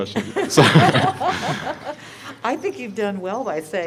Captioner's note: laughter